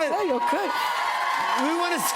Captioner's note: cheers and applause